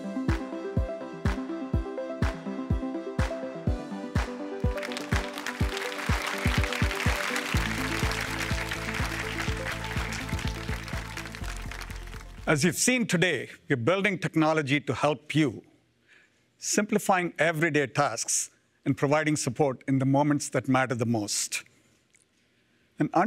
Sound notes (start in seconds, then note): 4.6 applause